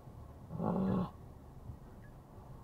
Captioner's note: uughh